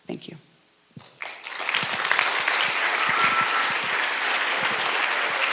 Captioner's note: applause